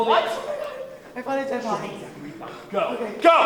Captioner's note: quitely